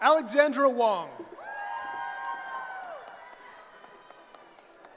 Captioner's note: cheering